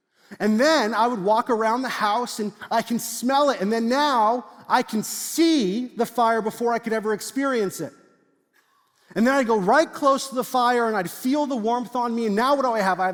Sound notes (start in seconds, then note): none